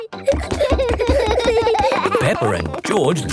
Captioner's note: both giggling